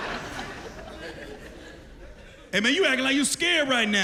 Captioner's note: laughter